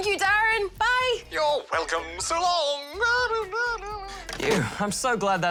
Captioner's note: laughs